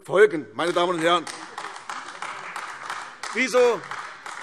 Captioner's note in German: Beifall AfD